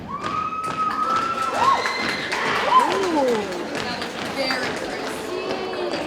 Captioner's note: audience cheering and applauding